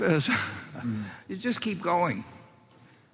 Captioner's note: laughs